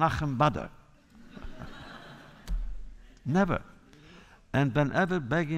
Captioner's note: laughter